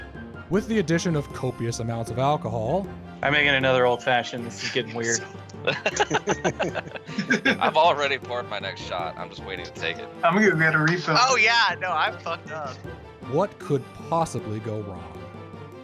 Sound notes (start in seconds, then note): 4.4 all laughing; 5.0 whispering